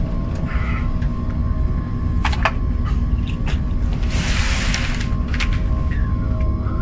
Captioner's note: tense music; devices whirring